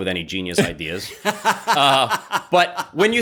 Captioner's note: laughs